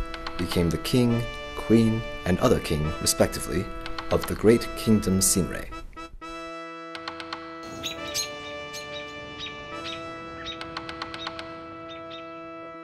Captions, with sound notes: became the king, queen, and other king, respectively, of the great Kingdom Sinrey. (birds call)